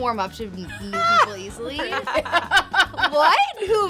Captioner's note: all laughing